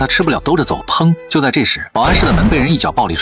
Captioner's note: bang!